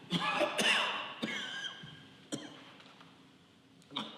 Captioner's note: Robert coughing